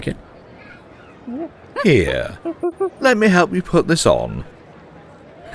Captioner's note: ape noises